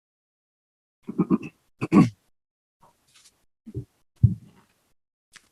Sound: clearing throat

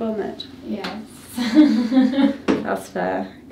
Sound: laughs

